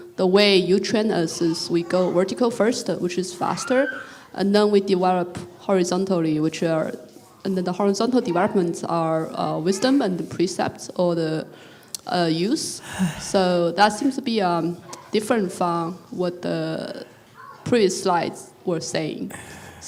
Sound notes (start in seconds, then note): 12.8 sighs